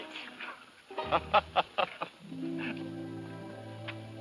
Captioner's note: laughs